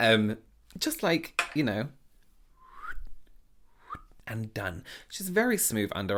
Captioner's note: blowing air